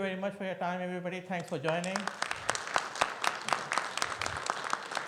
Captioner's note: audience applauding